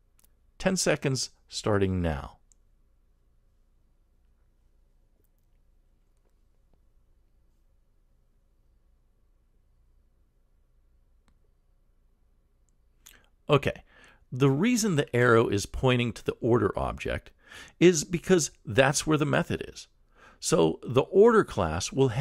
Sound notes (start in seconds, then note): 3.3 pause